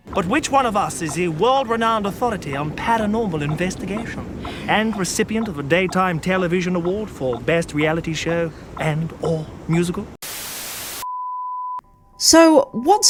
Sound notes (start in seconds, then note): 10.2 static